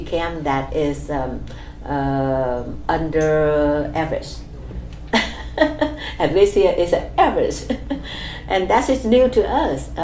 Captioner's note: laughs